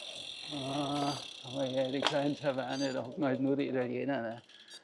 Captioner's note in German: stöhnen